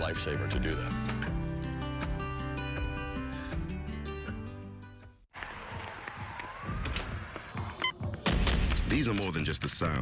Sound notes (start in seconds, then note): 7.4 street sounds; 8.0 stomping